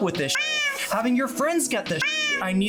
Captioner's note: meow; meow